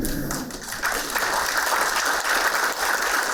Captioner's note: applauding